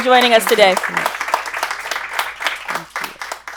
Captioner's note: clapping